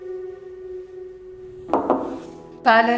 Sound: door knocking

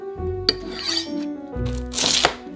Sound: knife scraping

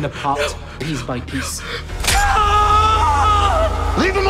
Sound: screams

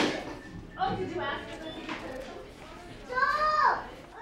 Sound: background chatter

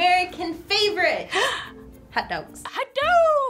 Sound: gasps

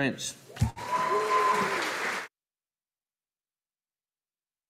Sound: audience applauding

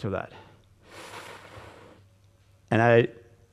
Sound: gusty inhalation

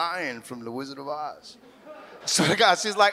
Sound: audience laughs

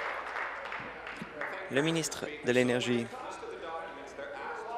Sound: applause

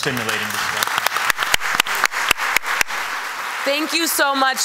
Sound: applause

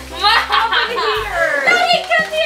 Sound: cackles

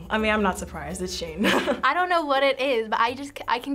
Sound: chuckles

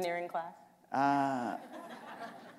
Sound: laughter

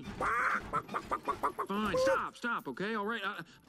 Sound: mimicking a chicken

